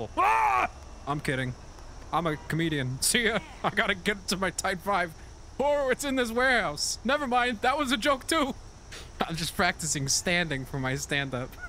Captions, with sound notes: WAAGH! I'm kidding. I'm a comedian. See ya! [laughing] I gotta get to my tight five. Whoa, it's in this warehouse! Nevermind! That was a joke, too! I'm just practicing standing for my stand-up.